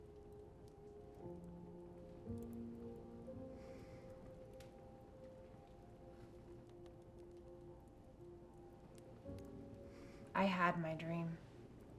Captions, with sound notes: (gentle music) (fire crackling) - I had my dream.